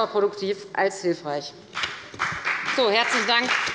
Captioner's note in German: Beifall bei der FDP